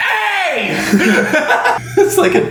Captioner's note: laughs